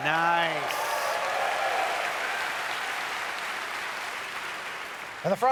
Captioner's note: audience cheers